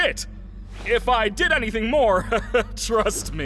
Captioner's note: laughs nervously